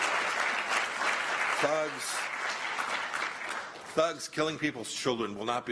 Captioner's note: applause